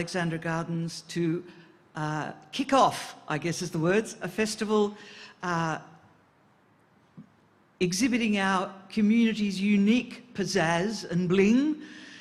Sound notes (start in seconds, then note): none